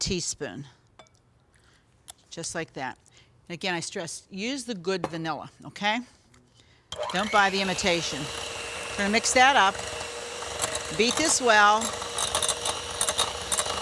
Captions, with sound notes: Just like that. And again, I stress, use the good vanilla, okay. (mixer whirs) Don't buy the imitation. We're gonna mix that up. Beat this well.